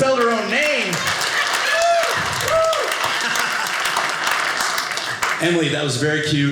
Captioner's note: audience applauding